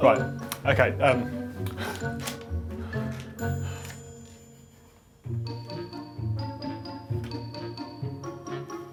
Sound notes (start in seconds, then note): 1.9 laughing; 3.9 gentle music